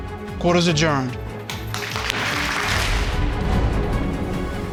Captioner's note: courtroom applauding